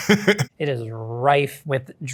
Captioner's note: participant laughs